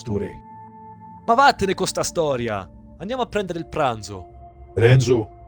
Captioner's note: renzo speaks italian